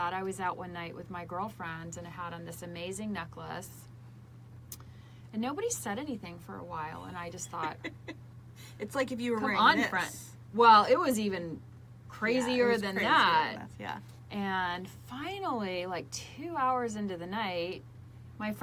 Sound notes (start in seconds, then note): 7.3 laughs